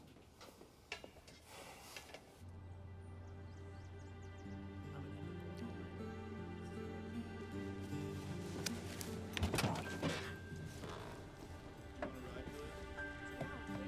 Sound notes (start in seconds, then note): 1.4 sighs; 2.7 birds chirping